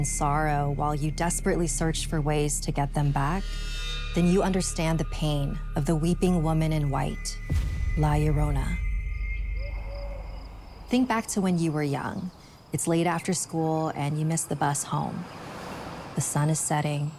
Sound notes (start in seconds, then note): 9.2 owl hooting; 9.6 crickets chirping; 14.0 car whooshing